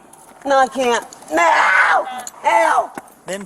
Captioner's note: screaming